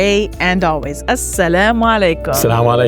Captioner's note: speaking foreign language